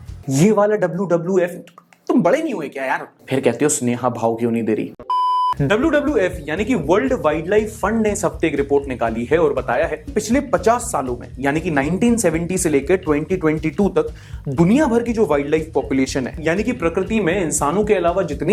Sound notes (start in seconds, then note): 5.0 beep